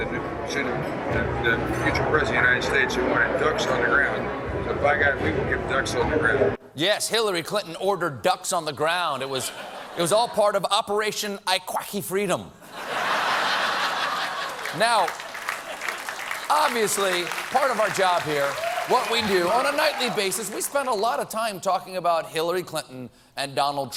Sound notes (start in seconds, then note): 12.6 laughter; 13.8 applause